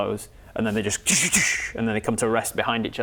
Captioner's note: de-de-dssch